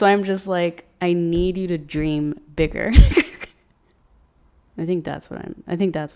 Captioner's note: laughs